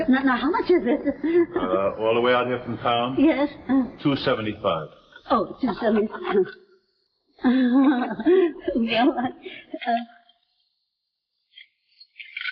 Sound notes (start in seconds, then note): 5.7 Veta nervously chuckling